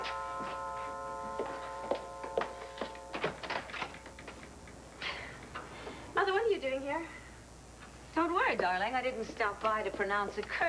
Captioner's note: doorbell rings